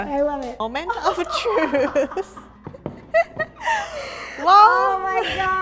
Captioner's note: both giggle